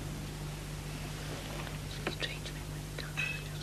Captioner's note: whispering